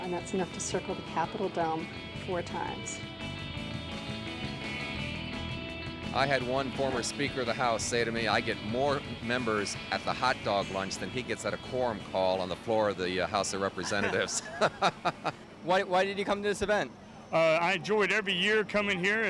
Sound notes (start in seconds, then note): 13.7 laughs